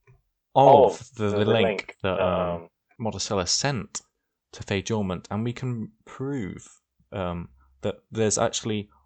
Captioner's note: echoed voiced